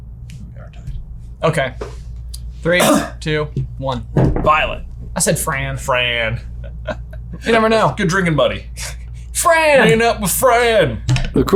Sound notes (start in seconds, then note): 6.6 laughs